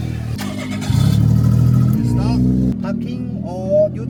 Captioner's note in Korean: 심장을 울리는 엔진 사운드